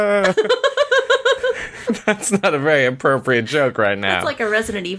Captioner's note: laughter